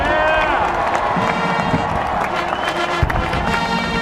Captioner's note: cheering